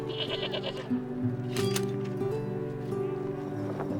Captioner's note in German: Schafe weinen